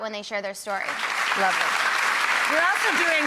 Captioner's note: audience clapping